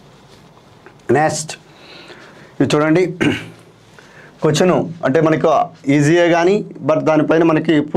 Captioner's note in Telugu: గొంతు సవరించుకోవడం